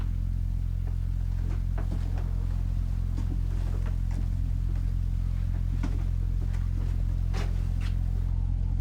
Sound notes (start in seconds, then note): 0.0 floor creaking